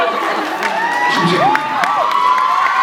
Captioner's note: cheers, applauds; laughs, cheers, applauds; cheers, applauds